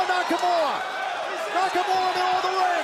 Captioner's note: crowd cheering